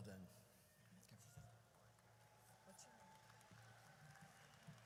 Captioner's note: audience cheers